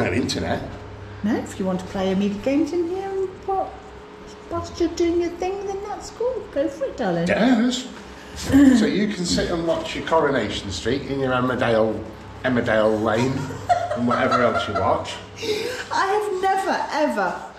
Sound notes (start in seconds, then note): 13.0 laughter